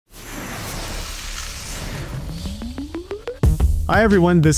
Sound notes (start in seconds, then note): 0.1 air whooshes; 2.1 upbeat music